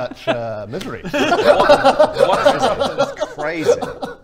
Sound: laughs

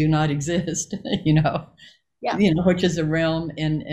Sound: Joy laughs

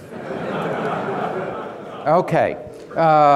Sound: audience laughing

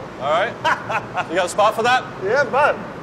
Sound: laughs

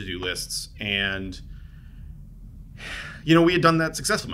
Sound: sighs

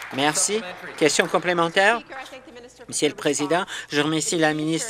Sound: applause

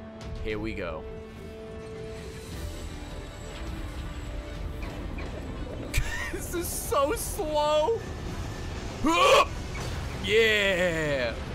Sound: laughs

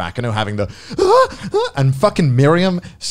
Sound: exclaims

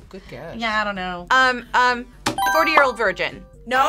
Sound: buzzer rings

